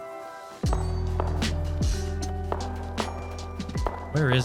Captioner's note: gunfire in distance